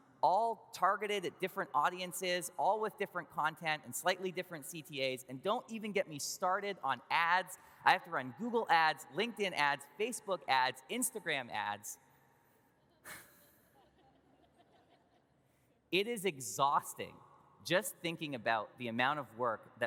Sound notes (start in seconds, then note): 13.1 sighs; 13.1 audience laughs